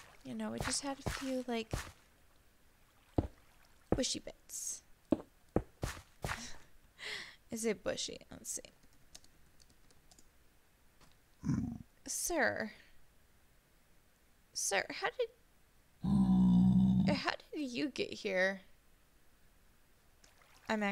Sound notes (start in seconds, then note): 11.7 laughs